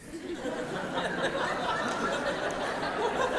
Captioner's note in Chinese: 笑聲